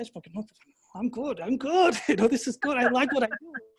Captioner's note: laughing